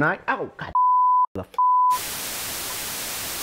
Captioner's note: beep; interference hissing